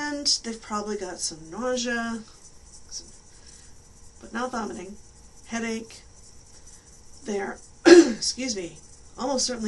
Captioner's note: clears throat